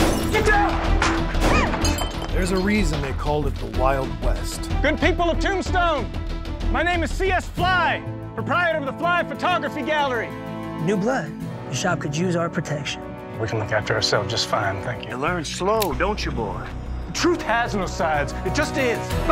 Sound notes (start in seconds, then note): 0.0 gunshot, window shatters; 15.8 cocks gun